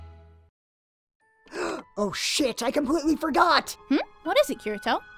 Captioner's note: gasp